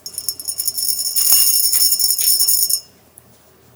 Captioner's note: clink